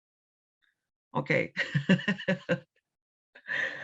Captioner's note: laughs